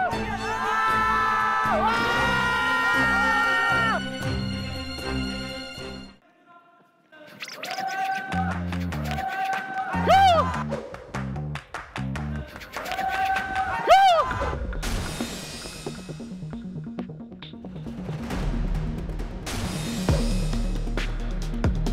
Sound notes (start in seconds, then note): 0.2 The audience explodes at MangShin's surge?!; 7.1 making sound with his mouth